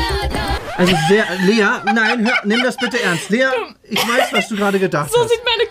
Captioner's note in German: lacht